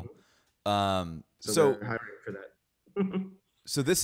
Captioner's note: chuckles